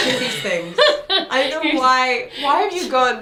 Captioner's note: laughs